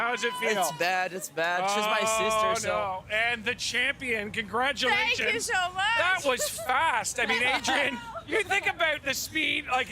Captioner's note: laughter